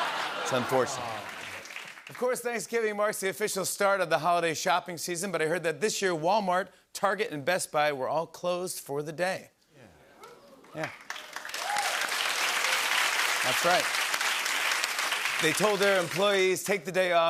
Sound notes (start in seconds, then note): 0.0 laughter; 10.2 cheers and applause